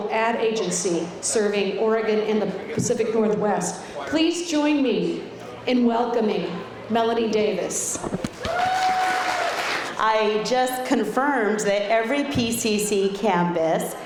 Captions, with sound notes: ad agency serving Oregon and the Pacific Northwest. Please join me in welcoming Melanie Davis. [clapping] I just confirmed that every PCC campus